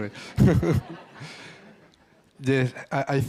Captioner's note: all laugh